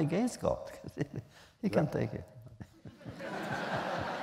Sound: laughter; laughs

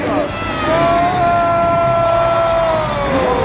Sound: hosts cheer

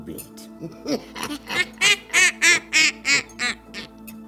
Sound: cackling

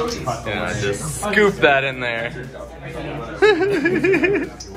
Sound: laughs

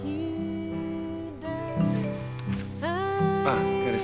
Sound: ringtone sounds

